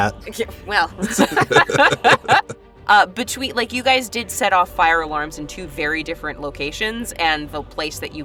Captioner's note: chuckles